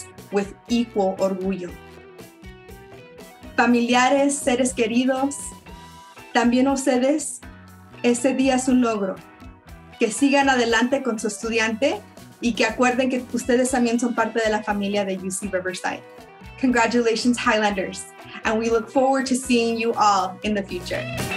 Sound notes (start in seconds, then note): 3.5 speaks in foreign language